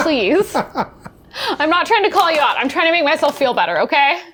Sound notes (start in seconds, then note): 0.1 laughing